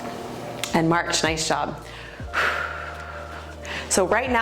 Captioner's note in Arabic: زفير